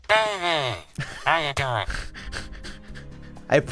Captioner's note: laughs